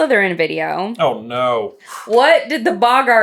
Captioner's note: exhales